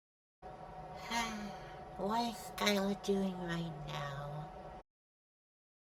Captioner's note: sigh